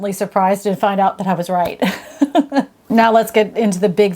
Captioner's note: laughing